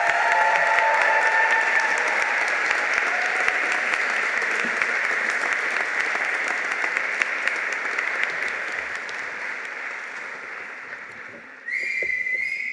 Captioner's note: applause